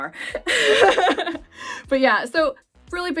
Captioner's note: laughs